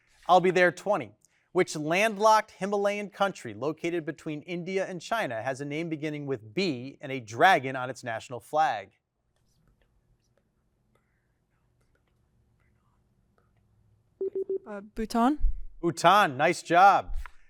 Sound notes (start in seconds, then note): none